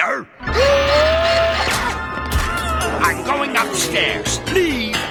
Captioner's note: gasping